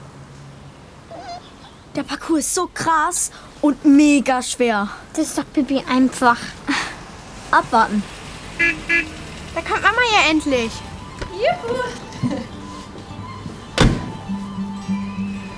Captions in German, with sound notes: Der Parcours ist so krass und megaschwer. Das ist doch pipi-einfach. Abwarten. (Freudiges Hupen) Da kommt Mama ja endlich! - Juhu! (Freudige Musik)